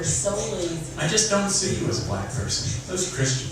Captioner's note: male Voice